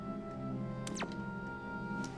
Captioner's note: tv turns off